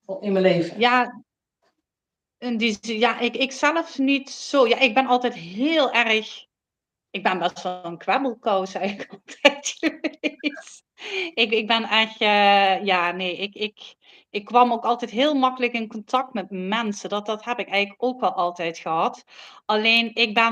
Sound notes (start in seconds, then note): 8.8 laughs